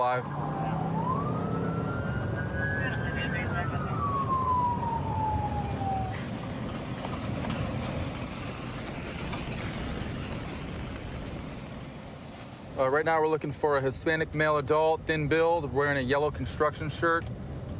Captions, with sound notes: [police sirens blaring] [dispatch chatter] Right now, we're looking for a Hispanic male adult, thin build, wearing a yellow construction shirt.